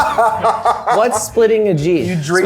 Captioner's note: laughing